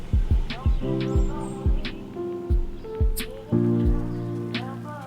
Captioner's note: birds chirping